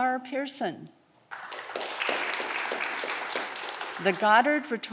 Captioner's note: audience clapping